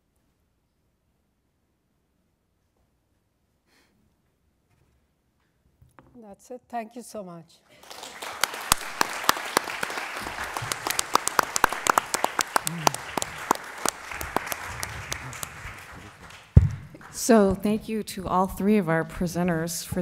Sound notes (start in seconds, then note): 7.7 applause